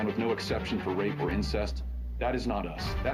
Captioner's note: HABLAN EN INGLéS